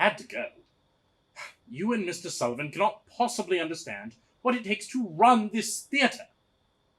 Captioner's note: huff